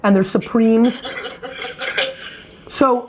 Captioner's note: class laughs